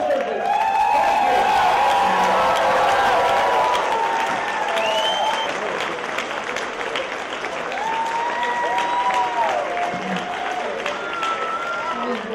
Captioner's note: cheers and applause